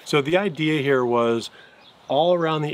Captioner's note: none